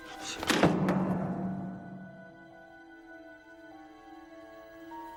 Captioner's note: weights crash to the ground